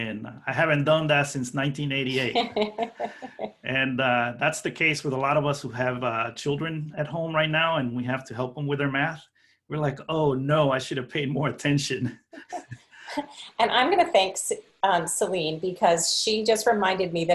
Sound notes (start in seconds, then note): 2.1 laughter; 12.3 laughing